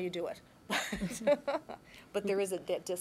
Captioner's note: laughter